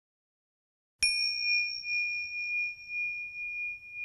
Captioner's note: bell tings